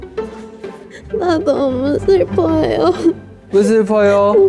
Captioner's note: crying